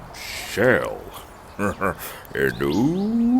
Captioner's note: chuckles